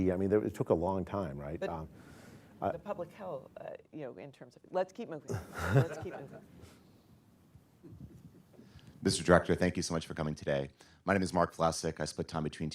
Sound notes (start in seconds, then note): 5.3 laughter